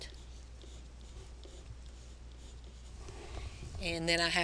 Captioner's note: pen scratching